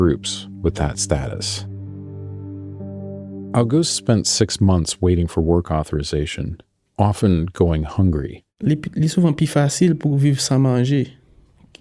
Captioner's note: speaking Creole